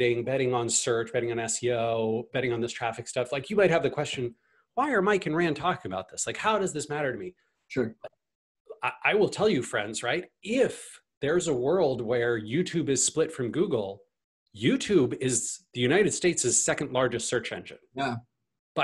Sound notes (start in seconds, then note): none